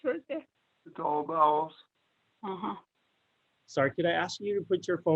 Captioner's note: man chattering